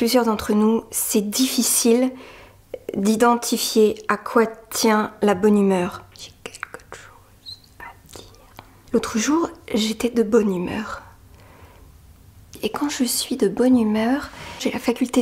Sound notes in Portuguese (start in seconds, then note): 5.8 Sussurro